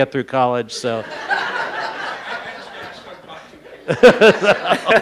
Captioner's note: laughing